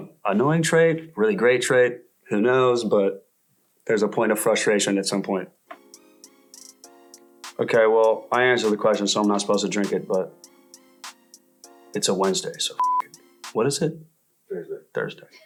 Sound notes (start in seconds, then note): 12.8 beep